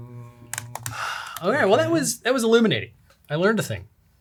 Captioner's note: sigh